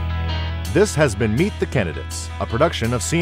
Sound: voiceover

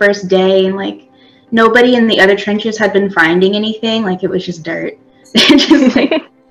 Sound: laughs

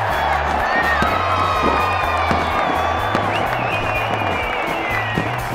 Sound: crowd goes wild + fireworks sounds

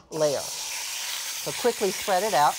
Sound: sizzling

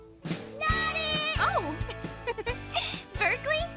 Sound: giggles

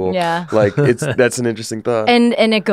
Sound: laughs

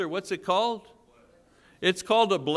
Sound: congregation murmuring

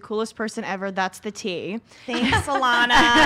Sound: laughs

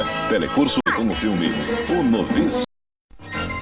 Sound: man speaks portuguese

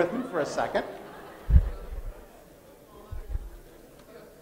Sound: laughter

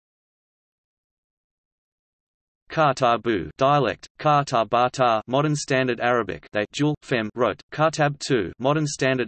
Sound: dialect

